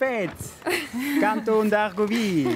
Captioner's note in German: lachen